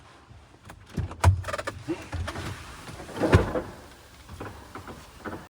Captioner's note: chocks wheel